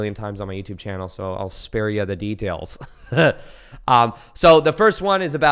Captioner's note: laughs